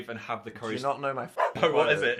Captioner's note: dog barks